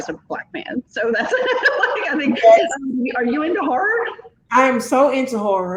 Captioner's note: laughing